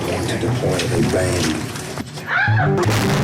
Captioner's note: woman shrieks